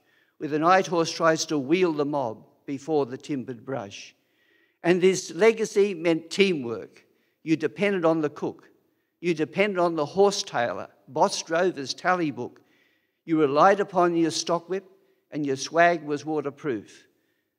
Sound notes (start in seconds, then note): none